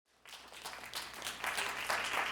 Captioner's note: applause